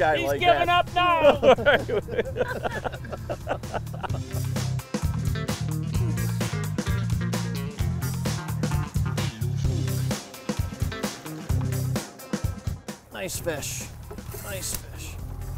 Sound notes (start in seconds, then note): 1.1 laughter; 5.3 upbeat jazz music